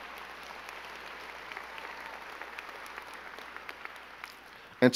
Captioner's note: crowd clapping